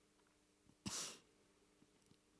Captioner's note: sniffs